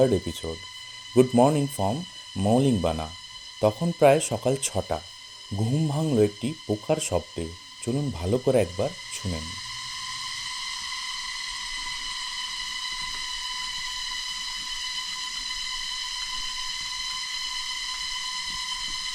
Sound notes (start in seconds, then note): 12.6 sound of nature